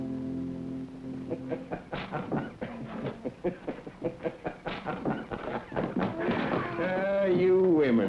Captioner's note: man chuckling